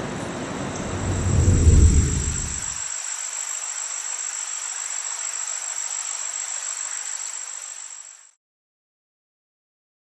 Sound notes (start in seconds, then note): 0.1 crickets chirping; 0.7 air whooshing; 0.7 crickets chirping; 0.8 water flowing